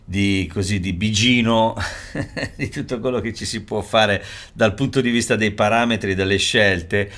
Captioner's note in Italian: risate